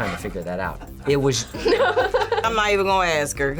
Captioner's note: laughs